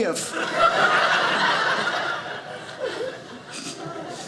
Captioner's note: audience laughing